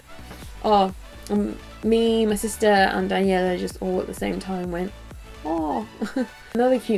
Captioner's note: laughs